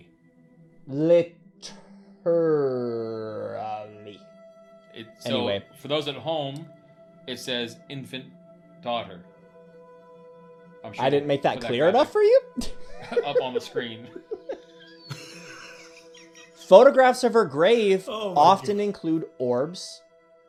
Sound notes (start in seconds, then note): 12.6 laughing